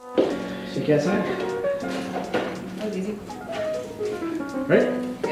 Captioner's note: indistinct conversation